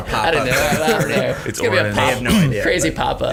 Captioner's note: all laughing